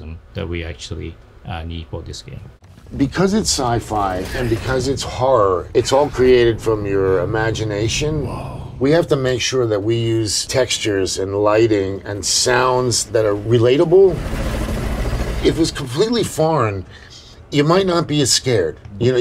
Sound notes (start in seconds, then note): 14.2 fans rattling